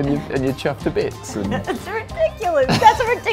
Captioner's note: laughs